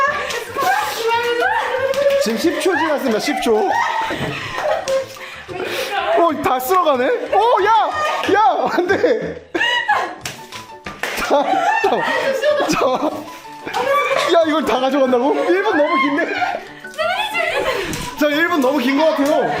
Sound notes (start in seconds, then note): 3.6 falls over laughing